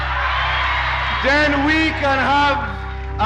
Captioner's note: soundbite of crowd cheering